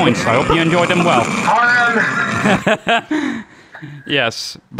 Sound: group laughter

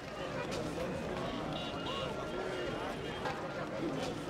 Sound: crowd bustling

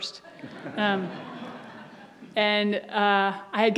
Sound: audience laughs

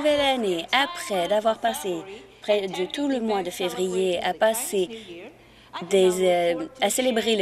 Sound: speaking Alternate Language

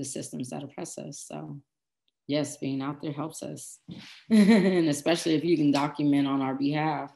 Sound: laughs

